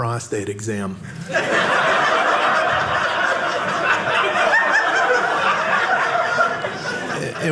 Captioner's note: audience laughing